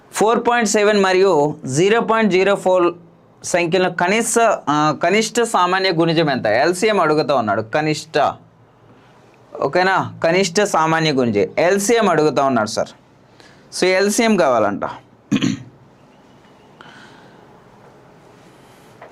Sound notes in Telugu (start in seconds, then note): 15.3 గొంతు సవరించుకోవడం